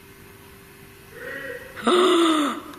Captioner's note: male shouting